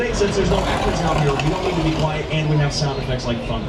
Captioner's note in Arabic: قرقرة الرعد